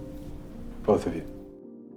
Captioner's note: voiceover